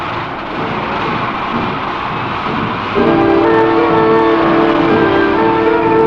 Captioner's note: engines rumble; dramatic orchestral music